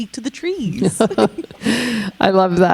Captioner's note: chuckling